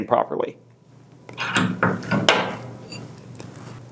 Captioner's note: metal moving